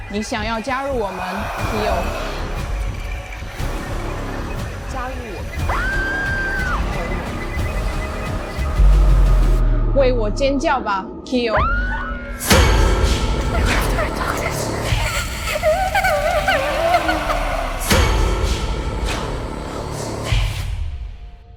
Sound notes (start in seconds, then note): 1.6 Mandarin language; 2.6 suspenseful music; 5.5 Mandarin language; 5.6 Keo screams; 7.2 suspenseful music; 11.0 Mandarin language; 11.7 Keo screams accompanied by suspenseful music; 15.1 Young Keo crying; 16.3 Ghostly Doctor moans